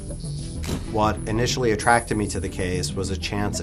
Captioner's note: sudden snapping